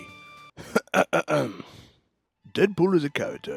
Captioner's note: clears throat